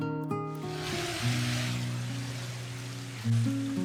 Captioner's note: it started raining